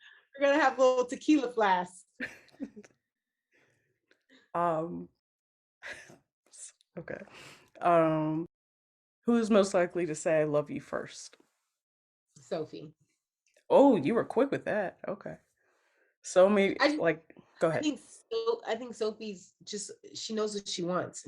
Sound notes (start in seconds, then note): 2.2 laughs